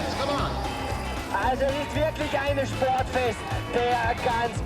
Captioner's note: speaks german